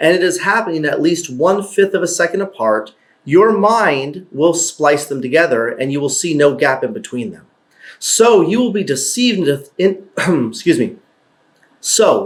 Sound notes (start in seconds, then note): 10.2 cough